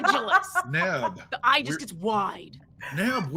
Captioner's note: laughing